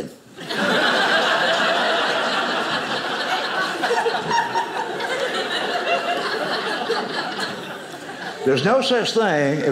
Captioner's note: audience laughing